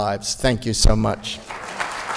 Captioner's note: applause